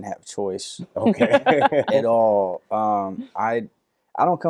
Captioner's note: laughing